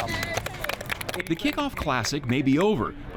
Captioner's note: group applauds